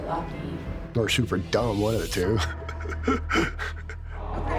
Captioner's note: laughing